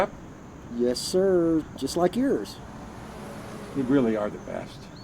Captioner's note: traffic whooshing